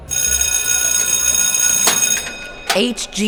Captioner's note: school bell rings